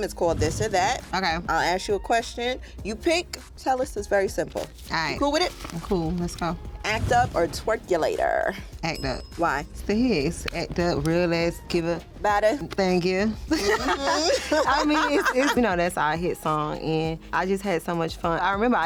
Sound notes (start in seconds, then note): 13.5 laughter